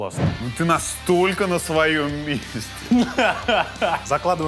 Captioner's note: laughs